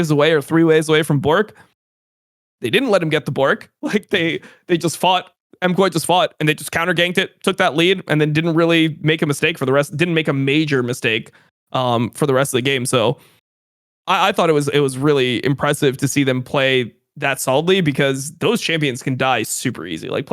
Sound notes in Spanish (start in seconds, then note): 3.9 risas